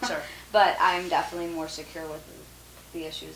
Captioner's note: laughs